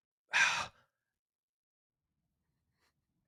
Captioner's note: sighs